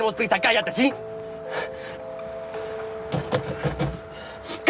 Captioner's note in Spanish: Ruido al encender el motor